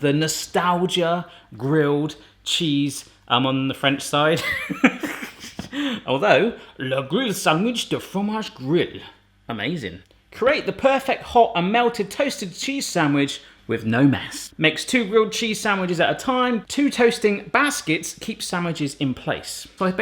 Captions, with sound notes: The Nostalgia Grilled Cheese... I'm on the French side. (laughs) Although... (speaking in French). Amazing. Create the perfect hot and melted, toasted cheese sandwich with no mess. Makes two grilled cheese sandwiches at a time. Two toasting baskets keep sandwiches in place.